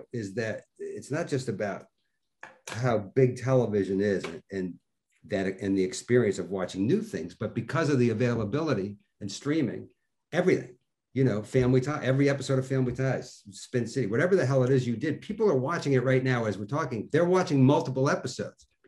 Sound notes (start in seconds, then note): none